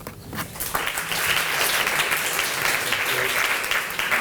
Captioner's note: applause